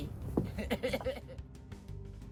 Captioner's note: laughs